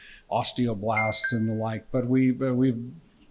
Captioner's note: electronic dinging